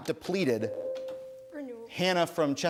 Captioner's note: ding